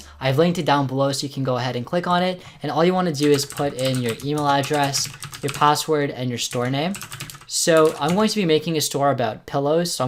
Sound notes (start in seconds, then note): 6.4 typing